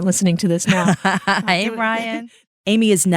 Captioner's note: laughs